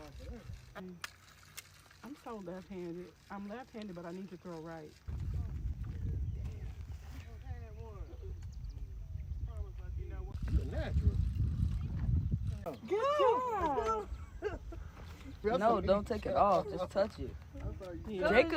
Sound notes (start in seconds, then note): 7.2 speaking quietly; 13.2 chuckling